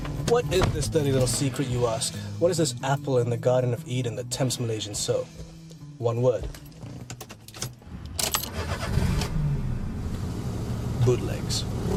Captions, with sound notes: What is this dirty little secret, you ask? What is this apple in the Garden of Eden that tempts Malaysians so? One word. [engine revs] Bootlegs.